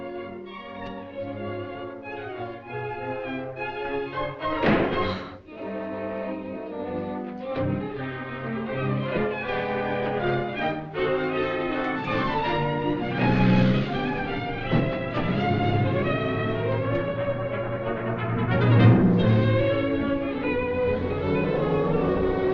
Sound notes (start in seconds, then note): 0.1 suspenseful music; 4.4 door slams; 7.2 suspenseful music